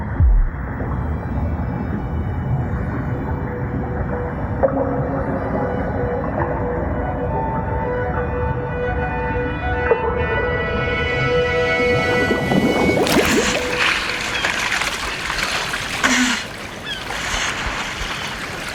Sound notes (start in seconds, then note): 0.1 eerie string music; 13.3 woman gasping